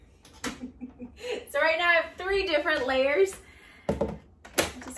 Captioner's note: laughs